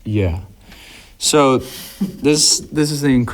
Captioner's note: laughs